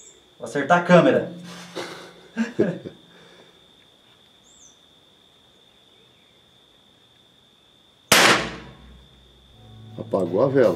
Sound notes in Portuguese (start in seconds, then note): 1.7 Risadas; 8.1 Disparo